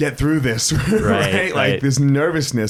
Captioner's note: laughs